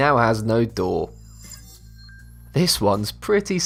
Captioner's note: futuristic ringing